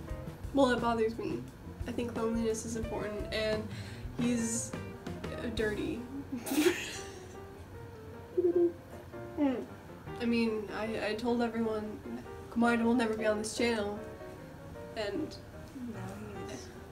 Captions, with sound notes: –Well, it bothers me. I think cleanliness is important, and... he's...dirty. [bursts out laughter] [blowing bubbles] Mm- I mean, I- I told everyone 'Komaeda will never be on this channel!' and... –Now he is.